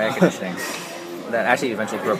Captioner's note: laughs